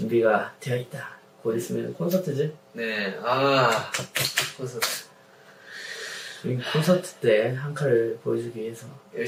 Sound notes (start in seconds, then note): 5.6 sigh